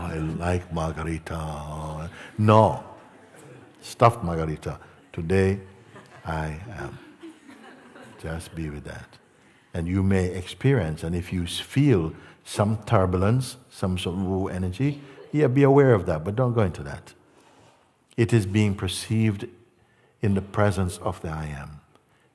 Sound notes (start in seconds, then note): 3.0 Lachen